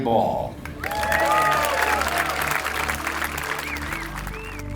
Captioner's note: applause; lighthearted music